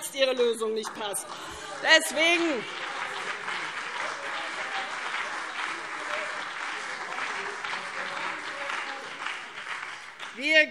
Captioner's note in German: Beifall CDU und BÜNDNIS 90/DIE GRÜNEN - Zurufe SPD und DIE LINKE